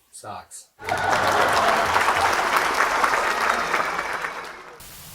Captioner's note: audience laughs